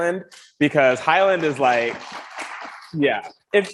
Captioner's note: audience applauds